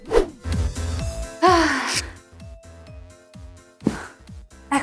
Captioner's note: sigh